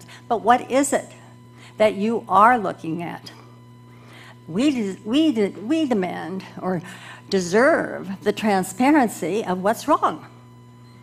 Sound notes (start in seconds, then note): none